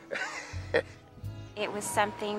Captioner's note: laughs